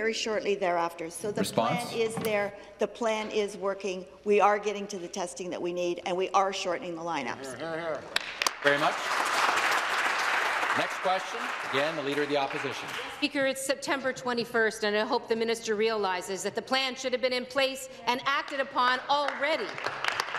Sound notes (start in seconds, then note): 11.2 some Applause